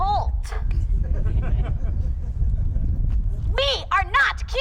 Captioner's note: all laughs